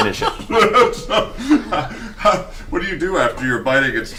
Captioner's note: all laugh